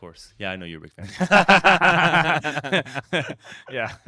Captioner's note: laughter